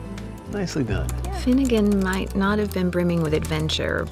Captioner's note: typing